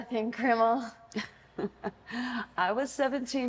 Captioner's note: laughter